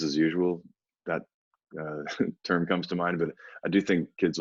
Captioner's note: chuckles